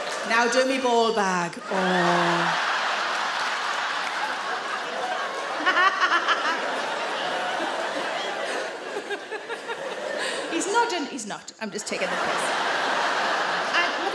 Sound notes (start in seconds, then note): 1.7 audience laugh loudly; 5.6 Sarah laughs